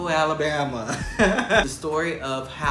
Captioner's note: man laughing